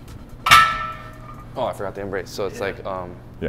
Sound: weights clanging

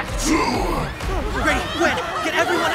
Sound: shouting

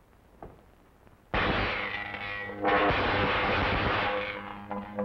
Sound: electricity zapping

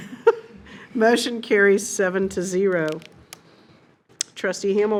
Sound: laughs

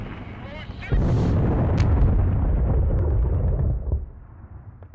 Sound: distant explosion

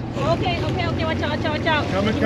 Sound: reel cranking

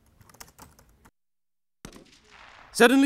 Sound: gunshots

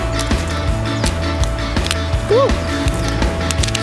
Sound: fingerboard slamming; fingerboard slams

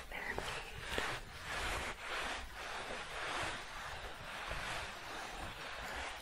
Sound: rubbing denim together

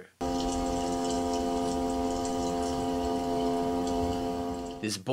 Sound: fast humming noise

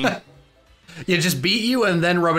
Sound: chuckling

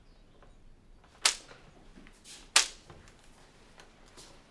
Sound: slapping

